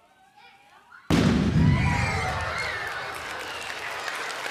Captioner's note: loud boom; audience howls; cheers and applause